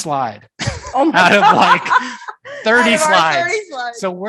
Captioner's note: laughing